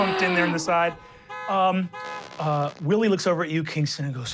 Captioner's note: car honking